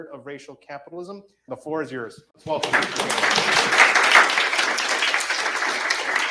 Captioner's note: audience applauds